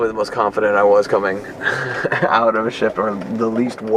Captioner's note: laughs